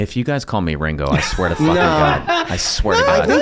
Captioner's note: Rob and Charlie laugh